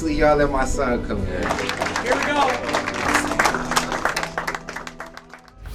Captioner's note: audience clapping